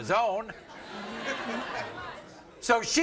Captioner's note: audience laughs